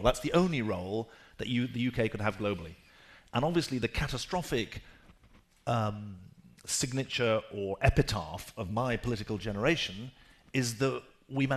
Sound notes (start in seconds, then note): none